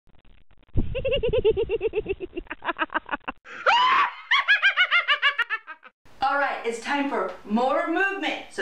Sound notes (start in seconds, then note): 0.8 extended giggling; 0.9 witch’s scream